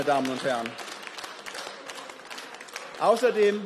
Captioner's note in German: Beifall